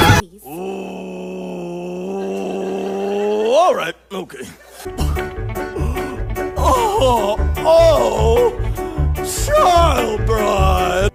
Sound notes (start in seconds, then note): 0.0 thinking noises; 5.1 scoffs